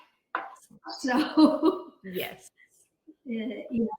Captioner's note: chuckling